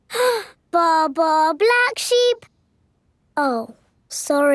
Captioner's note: inhales